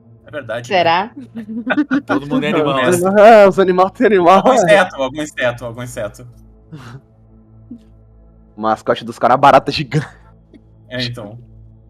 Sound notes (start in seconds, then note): 1.2 laughter; 11.0 laughs